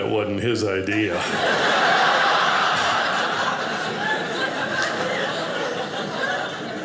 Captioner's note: audience laughing